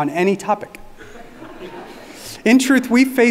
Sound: audience laughing

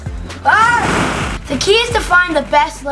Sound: ball pit rustling

